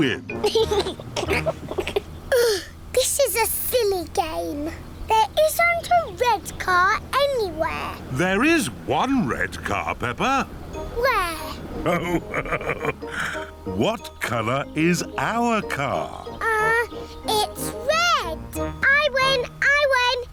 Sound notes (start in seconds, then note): 0.4 laughs; 1.1 groans; 11.7 laughs